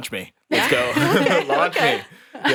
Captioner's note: laughs